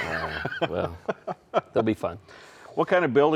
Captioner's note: host chuckling